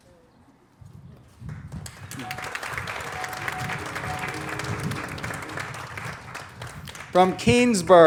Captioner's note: applause